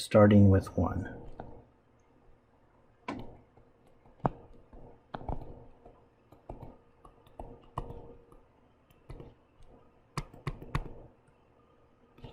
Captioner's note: writing Sounds